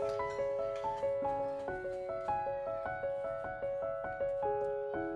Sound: children playing

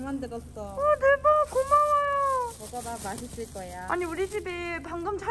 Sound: tears

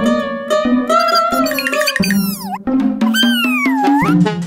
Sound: chirping excitedly

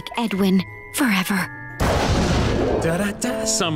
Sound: thundering

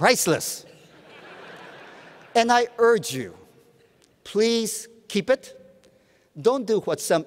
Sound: laughter

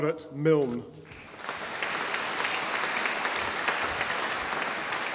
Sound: audience applauding

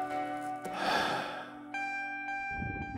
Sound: sigh

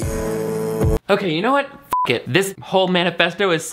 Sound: beep

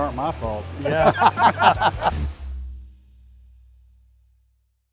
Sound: everyone laughing

